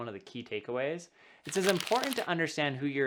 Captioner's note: paper rubbing